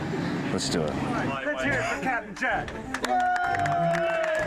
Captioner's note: cheering